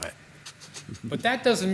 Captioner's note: laughing